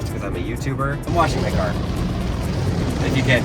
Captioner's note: water gushing